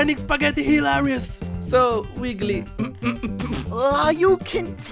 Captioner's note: holds in laugh